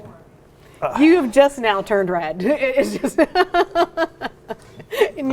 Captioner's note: laughs